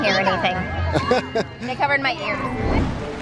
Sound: laughing

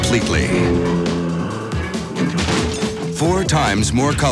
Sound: zombie sound

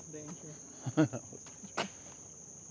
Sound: chuckles

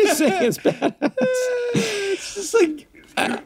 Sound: all laugh

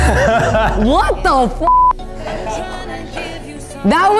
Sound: laughs; beep

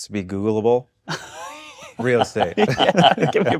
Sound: chuckle

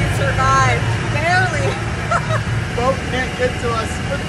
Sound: laughing

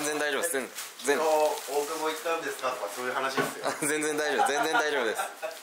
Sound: laughs

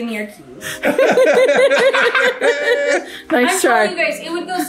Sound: parents laughing

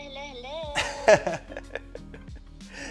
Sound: chuckles

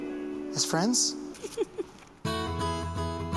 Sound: chuckles

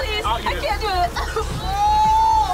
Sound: coughing

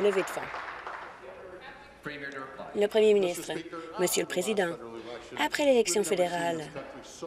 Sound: applause

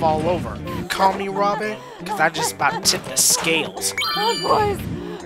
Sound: growing out of breath

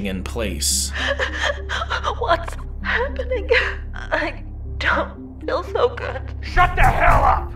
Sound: sobbing

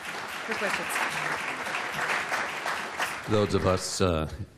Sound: applause

